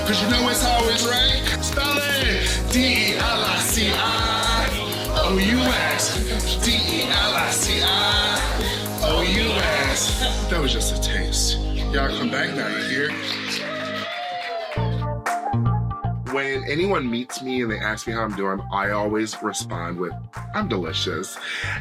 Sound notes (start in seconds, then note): 0.1 singing; 6.6 singing; 13.1 cheering